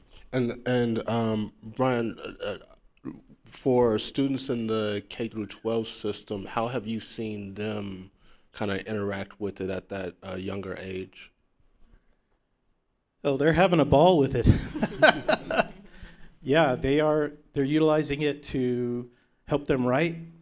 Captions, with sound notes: >> And Brian, for students in the K-12 system, how have you seen them interact with it at that younger age? >> Oh, they're having a ball with it. [ Laughing ] Yeah, they're utilizing it to help them write.